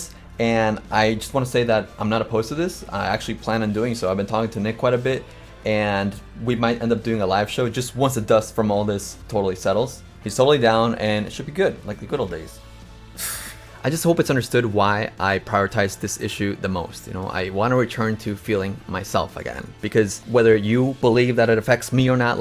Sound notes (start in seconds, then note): 13.0 chuckles